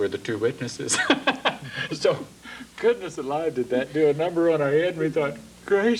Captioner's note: laughs